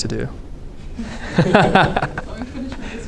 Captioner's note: laughs